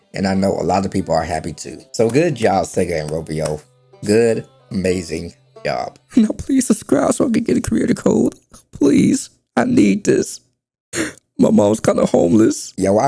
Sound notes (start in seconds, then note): 3.0 clapping; 11.0 inhales